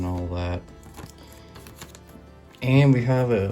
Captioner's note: paper crinkles